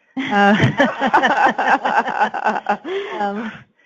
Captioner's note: group laughing